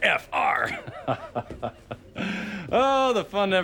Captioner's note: laughs